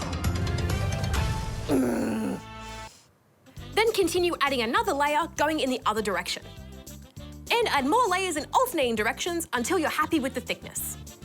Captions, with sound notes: (GRUMBLES) Then continue adding another layer, going in the other direction. Then add more layers in alternating directions until you're happy with the thickness.